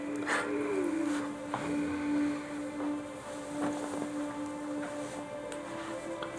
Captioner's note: sad music; Charles crying